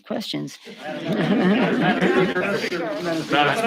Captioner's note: room chatter